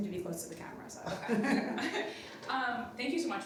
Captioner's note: everybody laughing